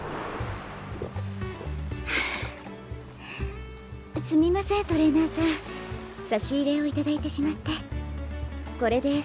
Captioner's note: sigh